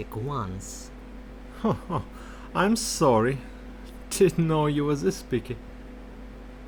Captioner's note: baffled laugh